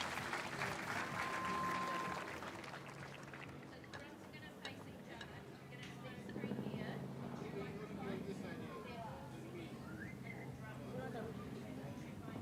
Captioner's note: applause